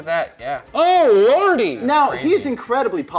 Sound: yelling

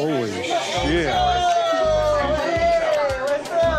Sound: loud chatter

